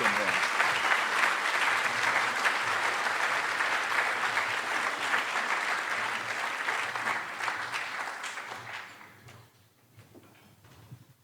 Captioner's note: applause